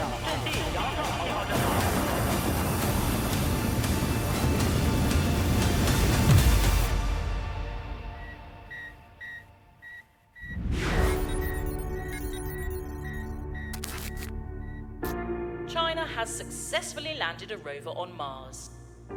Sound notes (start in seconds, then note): 0.0 foreign language in echo; 1.8 rover machine lands; 8.2 beeps; 10.6 intro music; 10.9 static sound